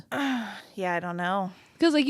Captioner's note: sighs